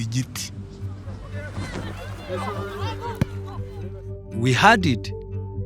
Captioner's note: people chattering